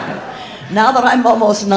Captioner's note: audience laughing